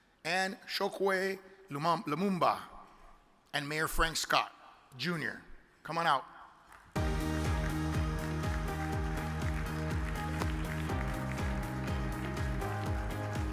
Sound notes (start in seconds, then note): 6.9 upbeat music; 8.9 audience applauds